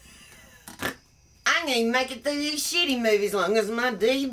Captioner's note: laughs